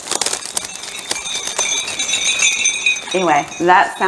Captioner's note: crystals tinkling